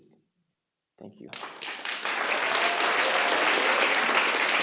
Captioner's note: audience applauds